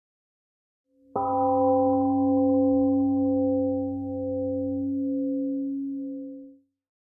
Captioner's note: temple gong sounds and fades slowly